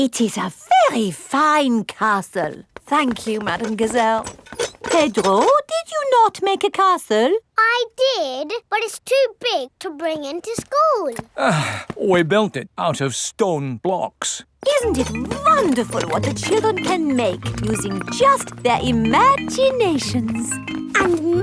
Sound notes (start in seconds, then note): 11.3 sighs